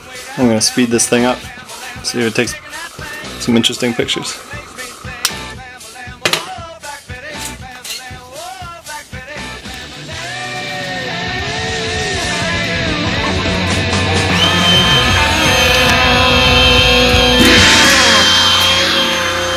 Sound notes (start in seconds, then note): 13.6 motor whines